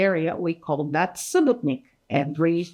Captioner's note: speaking in foreign language